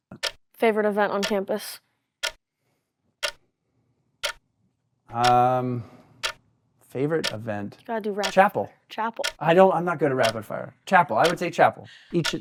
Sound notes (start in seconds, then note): 2.4 timer continues to click each second